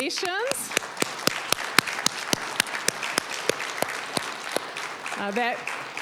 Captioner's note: applause